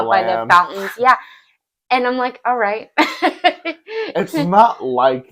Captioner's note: laughs